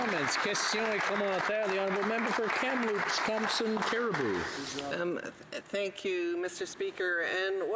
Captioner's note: some Applause